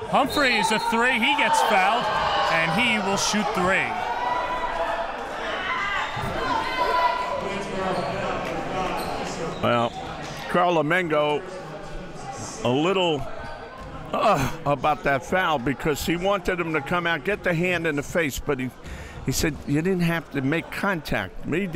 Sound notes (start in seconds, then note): 4.3 crowd boos